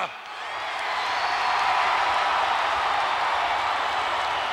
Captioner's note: crowd cheering